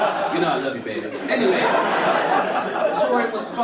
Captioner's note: audience laugh